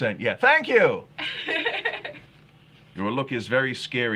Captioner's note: laughing